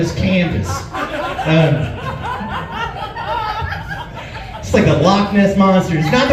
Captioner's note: laughs